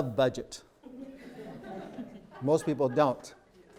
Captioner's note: group laughs